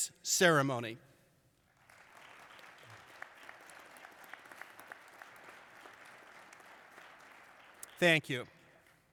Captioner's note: applause